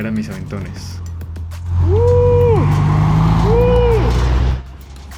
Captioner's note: triumphant noises